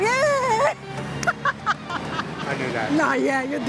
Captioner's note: laughs